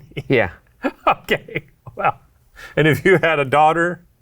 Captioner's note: laughs